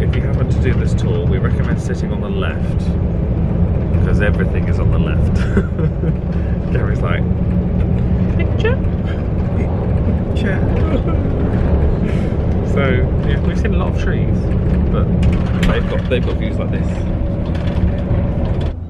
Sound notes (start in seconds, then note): 5.2 chuckles; 10.7 sobs mockingly